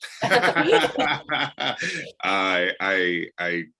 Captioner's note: laughing